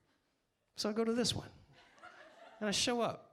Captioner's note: audience laughs